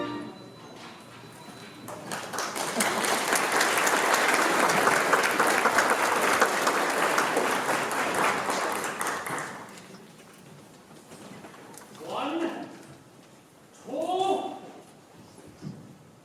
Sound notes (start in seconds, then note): 1.8 applause